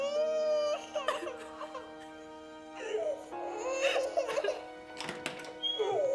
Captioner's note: Danielle sobs; baby cries; door creaks and slams